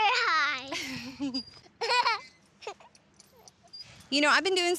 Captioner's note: laughing